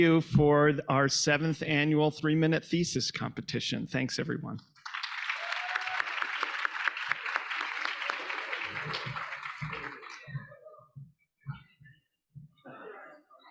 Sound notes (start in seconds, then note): 4.8 audience applauding; 4.9 audience cheering